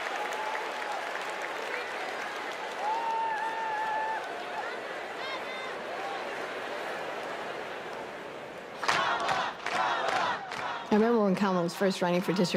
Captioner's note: applause